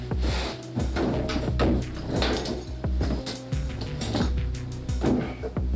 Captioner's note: washing machine; zipper